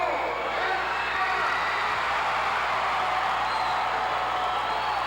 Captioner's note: audience cheering